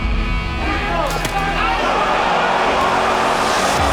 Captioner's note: crowd gasps, cheers